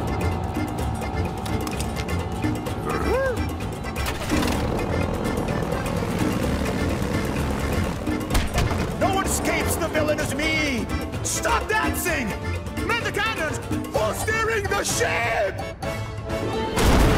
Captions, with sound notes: Ugh? [engine roars] No one escapes the villainous me. Stop dancing. Man the cannons. Who's steering the ship?